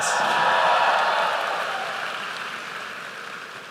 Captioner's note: applause